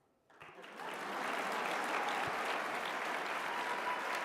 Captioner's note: applause